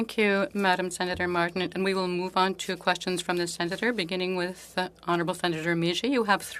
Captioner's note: speaking French